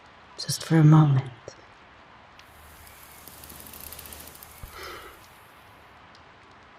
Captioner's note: whirring